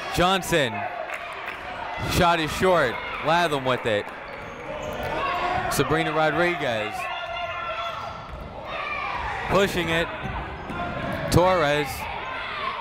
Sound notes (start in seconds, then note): 7.4 people shouting in the crowd